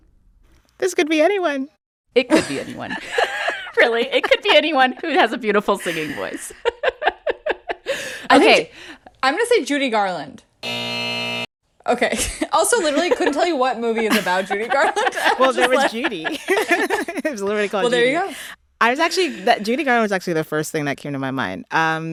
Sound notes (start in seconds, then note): 5.8 laughter; 10.6 soundbite of buzzer; 13.8 laughter